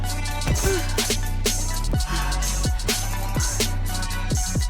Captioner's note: Dawn lands with a thud